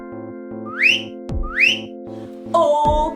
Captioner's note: whistling